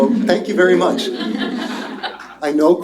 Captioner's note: laughter